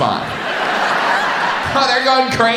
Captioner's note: audience laughs